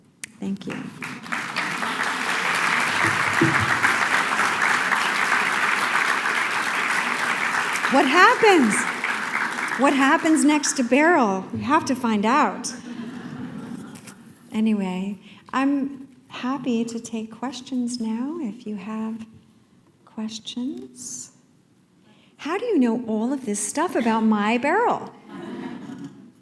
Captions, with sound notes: Thank you. [applause] What happens? What happens next to Beryl? We have to find out. [laughter] Anyway, I'm happy to take questions now, if you have questions. How do you know all of this stuff about my Beryl? [laughter]